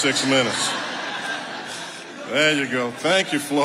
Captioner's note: audience laughing